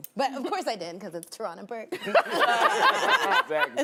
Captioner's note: laughs